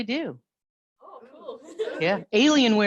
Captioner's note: laughs